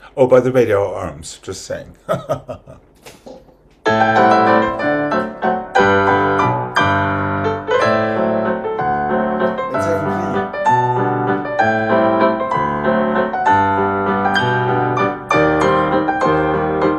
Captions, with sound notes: Oh, by the way, they are arms, just saying. *laughs* It's okay.